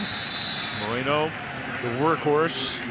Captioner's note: whistle